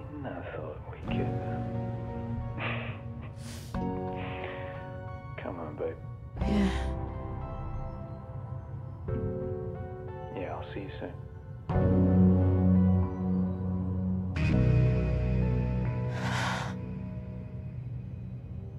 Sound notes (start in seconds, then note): 2.6 sniggers; 16.1 deep sigh